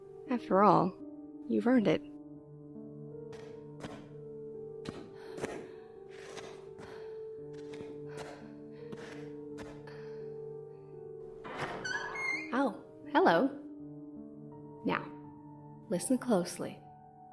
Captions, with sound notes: After all... you've earned it. [Shuffled footsteps] [Door creaking] "Oh, hello!" "Now. Listen closely."